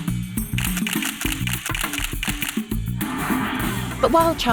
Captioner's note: camera clicking repeatedly